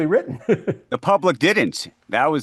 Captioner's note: chuckling